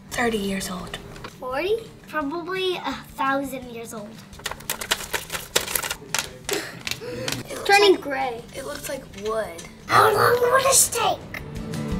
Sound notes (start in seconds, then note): 4.3 paper shuffling